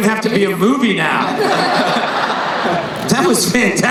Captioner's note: laughing